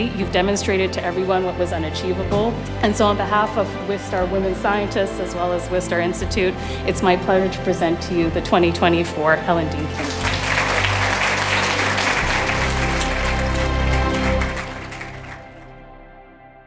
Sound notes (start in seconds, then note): 9.9 audience applauding; 13.8 uplifting music